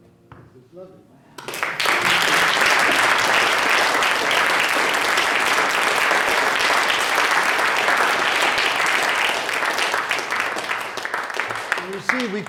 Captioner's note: audience applause